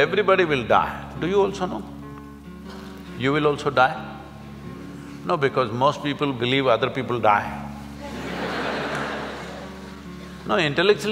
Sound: laugh

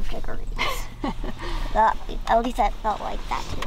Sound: laughs

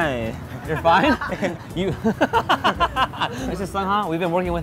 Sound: laughs

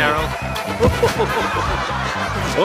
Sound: laughter

